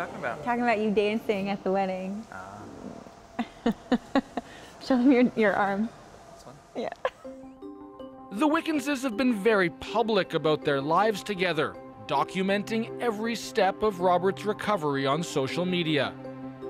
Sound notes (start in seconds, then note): 3.4 laughter